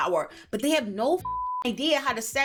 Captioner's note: beep